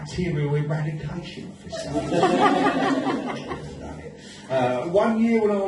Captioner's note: audience laughs